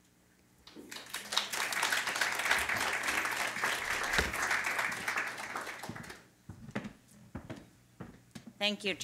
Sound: applause

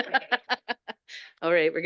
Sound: laughing

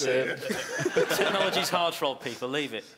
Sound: laughing drowns out speaking

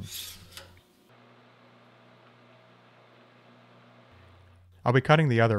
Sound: machine whirring

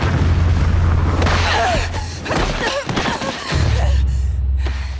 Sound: grunting

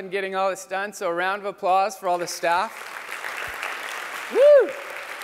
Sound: applause

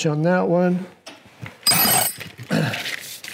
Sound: metal rattling; grunts

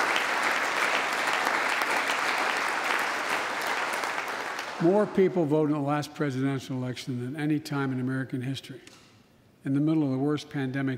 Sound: applause

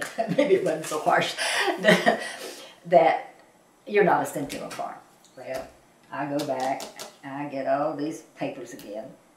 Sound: laughs

